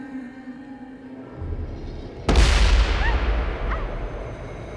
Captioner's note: forte détonation